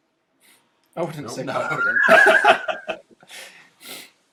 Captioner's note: laughs